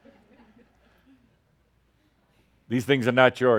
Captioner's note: a few chuckles